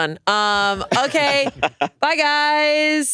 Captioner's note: laugh